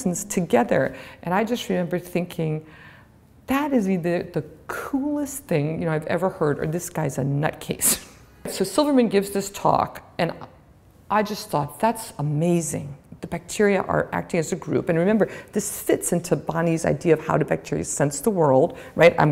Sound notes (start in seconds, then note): 8.1 chuckle